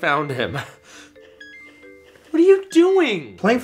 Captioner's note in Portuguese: Jogo de vídeo emite um sinal sonoro